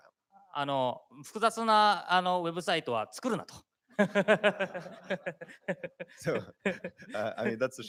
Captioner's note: speaking japanese